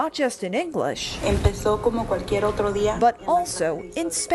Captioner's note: speaks foreign language